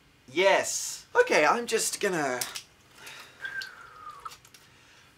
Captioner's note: whistle